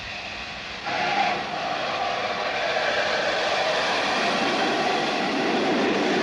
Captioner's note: train passes